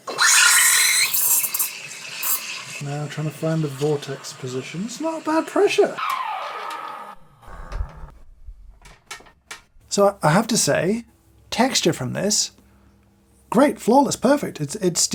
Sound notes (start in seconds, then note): 0.1 steam wand spurting; 6.3 gauge whirring